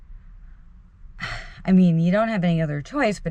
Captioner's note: sighs